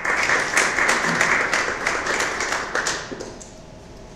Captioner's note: applause